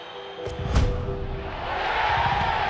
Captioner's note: ball thuds; crowd cheers